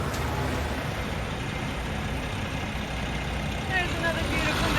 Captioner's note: engine running